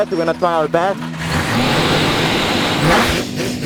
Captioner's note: engine fires up; engine revving